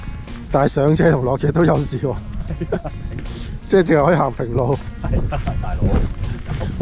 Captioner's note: haha